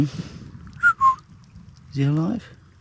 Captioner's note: whistles